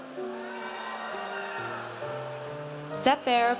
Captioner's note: audience cheers